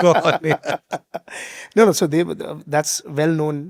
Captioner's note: both laughing